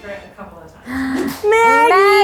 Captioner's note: gasps